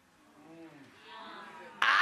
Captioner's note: audience moaning